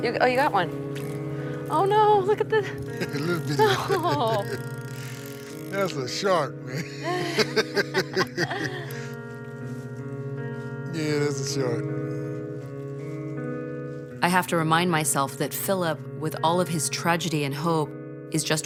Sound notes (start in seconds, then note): 6.7 both laugh